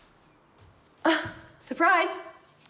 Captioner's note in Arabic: تضحك ليزيت